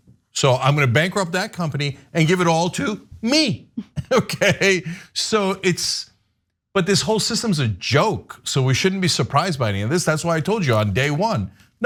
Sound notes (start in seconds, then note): 3.6 laugh